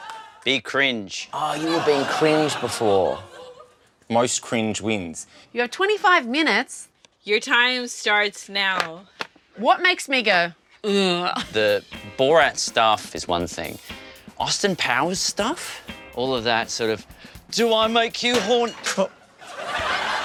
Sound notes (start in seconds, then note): 0.0 laughter; 18.3 bang!